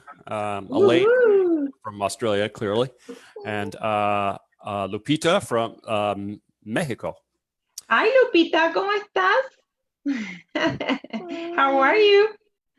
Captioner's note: laughs